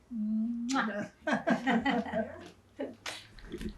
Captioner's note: laughing